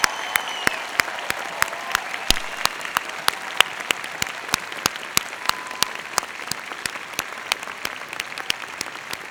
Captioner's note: cheers and Applause